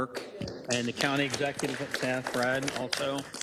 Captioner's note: applause